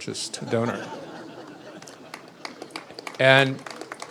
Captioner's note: audience laughing